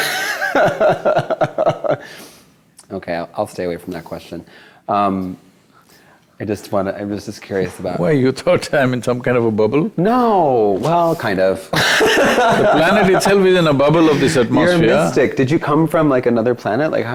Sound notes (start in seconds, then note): 0.0 laughs; 11.7 both Laugh